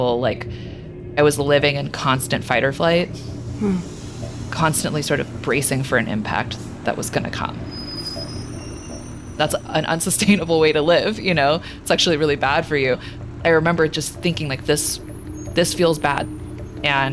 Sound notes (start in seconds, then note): 8.1 train wheels screeching; 10.1 chuckling; 13.7 soft suspenseful music